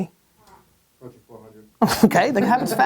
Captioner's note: voiceover